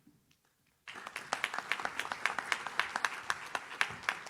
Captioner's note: audience claps